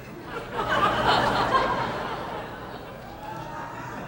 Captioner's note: audience laughing